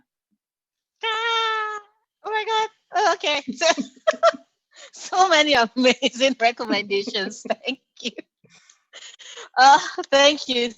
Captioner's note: laughs